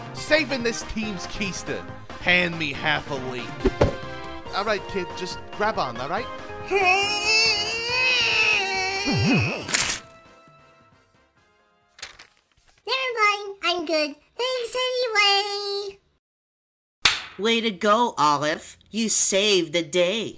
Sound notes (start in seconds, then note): 9.0 strains in exertion; 9.1 paper tearing